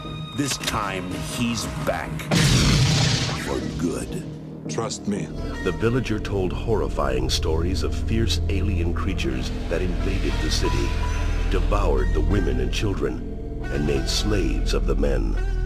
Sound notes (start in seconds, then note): 2.3 explosion